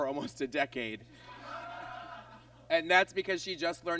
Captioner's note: audience laughs